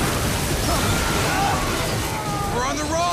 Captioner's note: men groaning